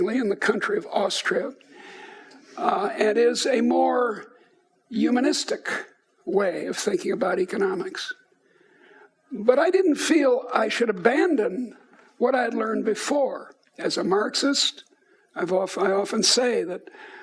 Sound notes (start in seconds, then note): none